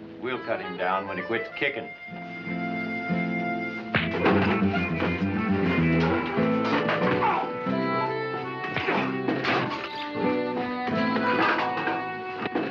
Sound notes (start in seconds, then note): 4.2 punch thuds; 4.5 tense music; 7.1 grunting